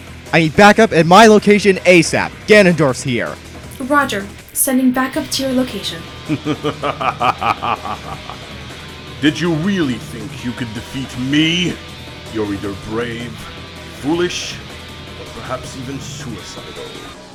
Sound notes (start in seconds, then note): 6.2 evil Laugh